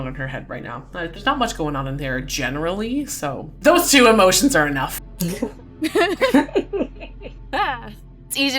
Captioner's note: chuckle